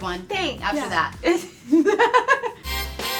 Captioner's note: laughs; fun music plays